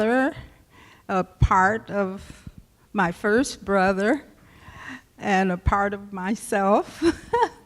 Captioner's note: laughs